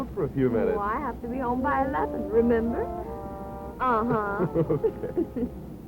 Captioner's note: laughter